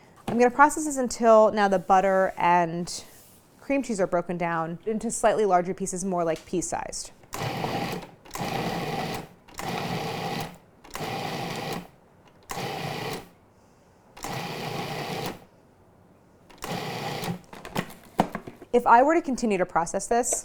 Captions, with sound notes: I'm gonna process this until now the butter and cream cheese are broken down into slightly larger pieces, more like pea sized. (mixer whirring) (mixer whirring) If I were to continue to process this,